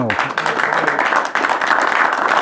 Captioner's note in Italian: Applauso